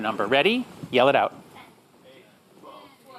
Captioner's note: audience murmurs and laughs